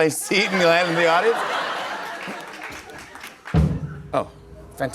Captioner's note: laughter